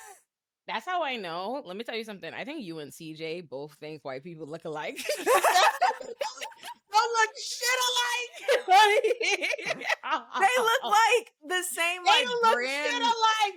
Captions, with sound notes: That's how I know. Let me tell you something. I think you and CJ both think white people look alike. (laughing) They look shit alike. (laughing) They look like the same one. They look shit alike.